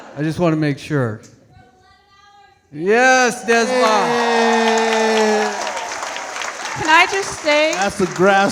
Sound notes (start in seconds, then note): 3.6 all clapping